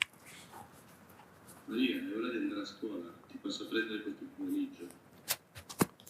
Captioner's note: non-english speech